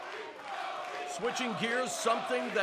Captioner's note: fans chanting